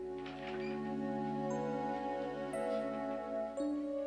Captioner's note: door creaks